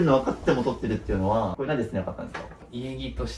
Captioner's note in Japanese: 笑い